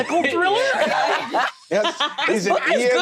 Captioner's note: laughter